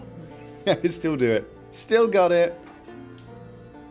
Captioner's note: laughs